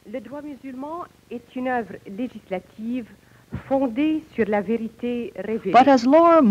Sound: speaking French

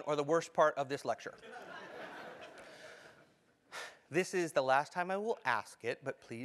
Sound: laugh

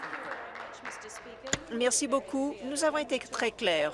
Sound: applause

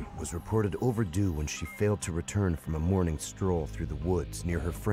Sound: voiceover

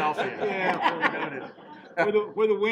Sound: laughing

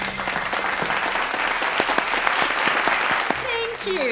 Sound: applause

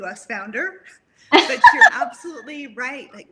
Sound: laughs

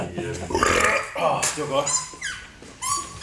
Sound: burp

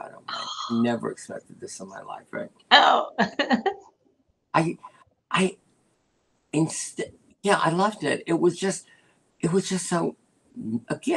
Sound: laughter

